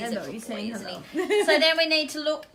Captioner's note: laughs